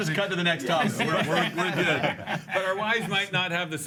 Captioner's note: loughs